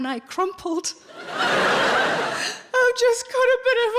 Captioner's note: audience laughing